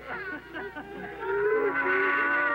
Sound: kingdom People Crying

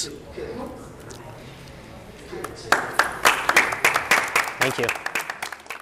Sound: applause

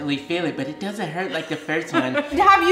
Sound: laughing

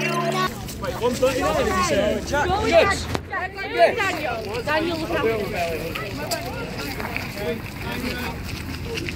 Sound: hubbub

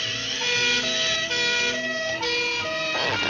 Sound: siren blaring

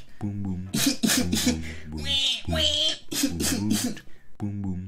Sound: cries

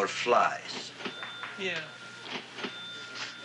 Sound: cash register ringing

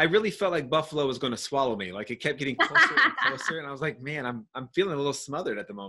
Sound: laughing

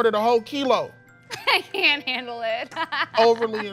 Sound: laughing

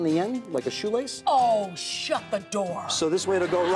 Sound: audience laughs

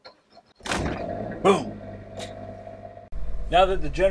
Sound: generator running

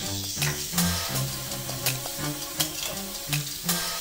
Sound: water running

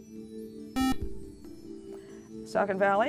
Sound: buzzer

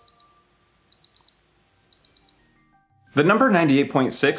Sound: temperature machines beeping

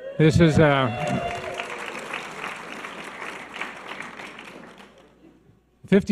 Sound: audience cheers and applause

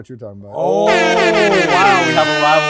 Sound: air horn blaring

